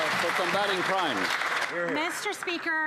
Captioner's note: applause